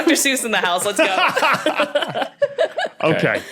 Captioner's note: group laughing